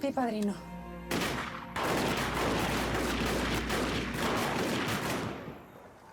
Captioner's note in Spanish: detonaciones de disparos